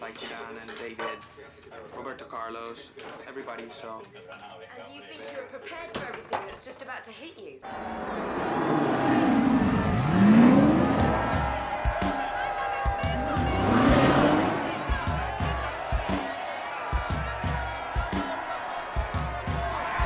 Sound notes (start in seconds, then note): 10.0 putaran mesin